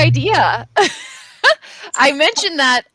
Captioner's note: laughs